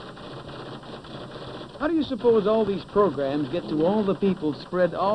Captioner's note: typewriter clicks and clacks